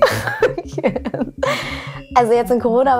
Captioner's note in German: lacht